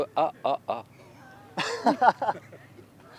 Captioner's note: laughther